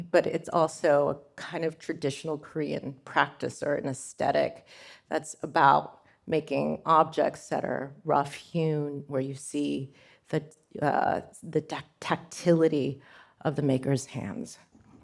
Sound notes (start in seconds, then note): none